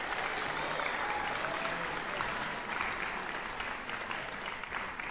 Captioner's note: applause